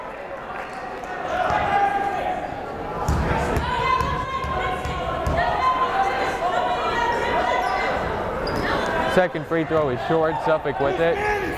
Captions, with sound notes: (yelling) Second free throw is short, Suffolk with it.